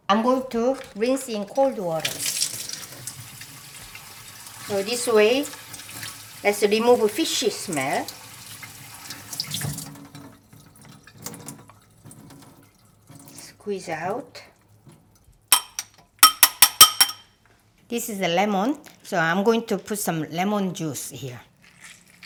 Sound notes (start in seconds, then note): 2.6 water running; 16.2 tapping; 22.0 lemon squelching